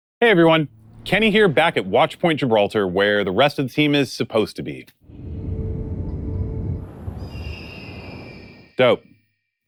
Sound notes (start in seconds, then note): 5.0 oppressive ambient sounds, and no action